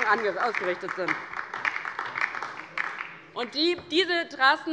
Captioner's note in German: Beifall DIE LINKE